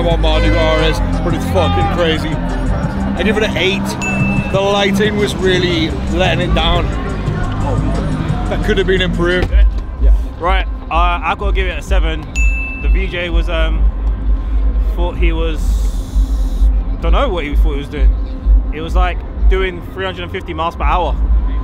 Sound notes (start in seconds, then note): 3.9 bell chimes; 12.3 bell chimes